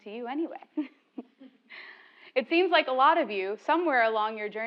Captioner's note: laugh